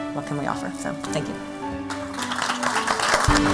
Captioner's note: applause